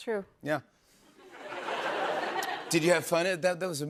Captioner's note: laughter